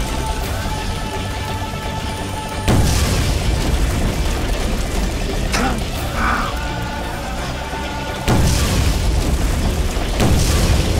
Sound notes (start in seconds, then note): 2.6 explosion; 8.2 bombs exploding